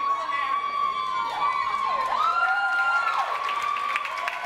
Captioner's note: audience cheers